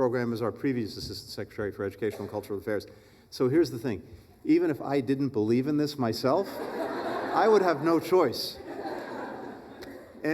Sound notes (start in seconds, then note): 6.4 laughter